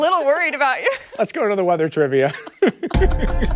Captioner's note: laughter